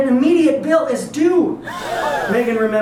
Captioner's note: audience gasps